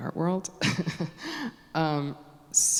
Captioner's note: chuckling to herself